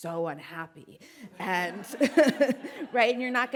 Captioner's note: audience laughing; laughs